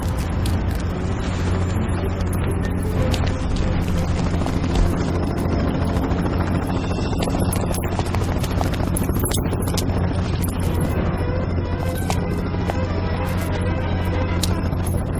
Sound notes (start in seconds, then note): 3.7 helicopter